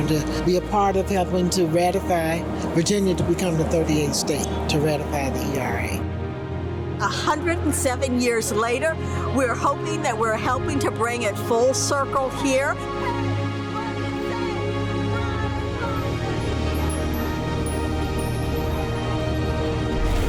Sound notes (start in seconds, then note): 13.0 protesters chant; 16.0 music peaks